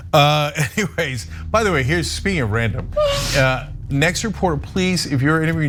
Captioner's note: laugh